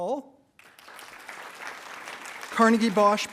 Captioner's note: attendees applauding